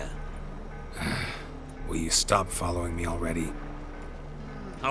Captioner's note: annoyed sigh